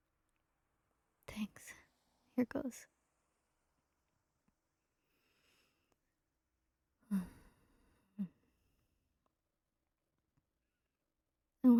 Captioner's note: deep breath